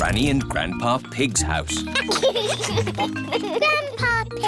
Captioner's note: giggles